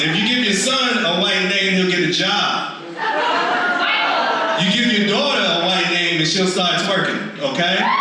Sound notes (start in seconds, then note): 2.8 audience laughs; 7.6 audience screams